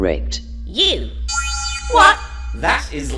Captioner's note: negative buzzer